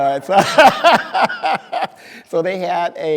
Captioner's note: speaker laughing